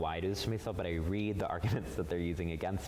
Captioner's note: chuckles